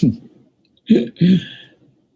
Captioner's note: chuckles